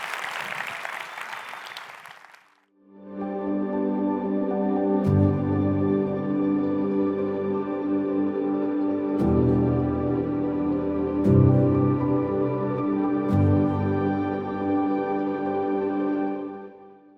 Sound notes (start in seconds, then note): 0.0 audience applauds; 3.7 gentle music; 12.4 gentle music